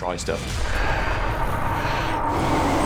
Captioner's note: groans, sighs